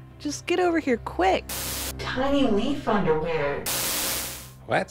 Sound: static

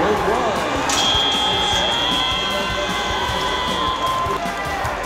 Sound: buzzer; cheering

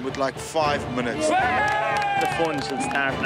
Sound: cheering and clapping

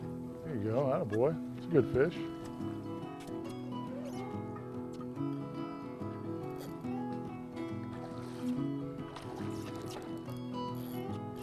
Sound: splashing

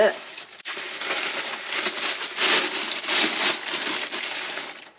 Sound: paper crinkling continues

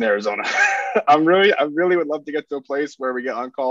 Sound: chuckles

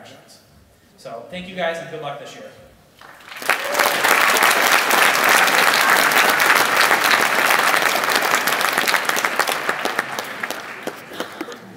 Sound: applause

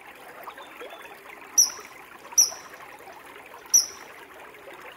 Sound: chirping continues

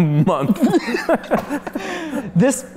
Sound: laughing

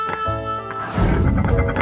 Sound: woooooosh

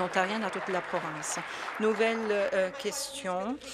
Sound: some Applause

